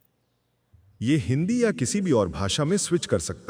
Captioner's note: non-english speech